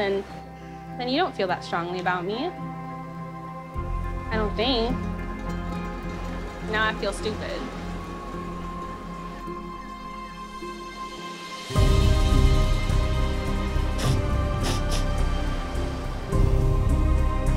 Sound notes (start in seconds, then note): 8.0 dramatic music; 13.9 sniffing